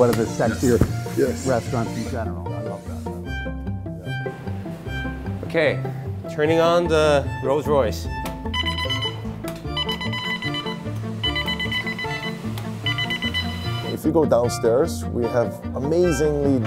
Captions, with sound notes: of the sexier restaurants in general. (soft mellow music) - Okay, turning on the Rolls-Royce. (fryers beep) - If you go downstairs, we have an amazingly